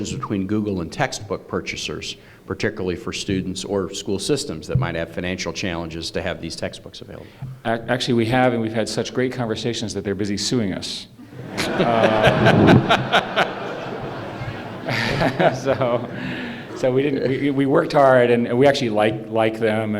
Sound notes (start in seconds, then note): 11.3 laughter